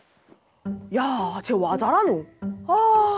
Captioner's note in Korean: 감탄